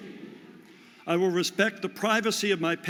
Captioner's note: audience repeats